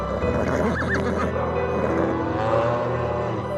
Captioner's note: horse whinnies; cow moos